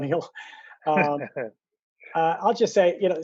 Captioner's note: laughs